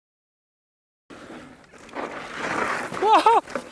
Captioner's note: engine revving; laughing